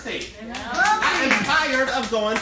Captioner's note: cheering and applauding